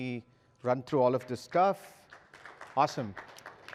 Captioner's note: applause